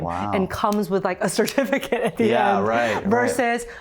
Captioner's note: chuckles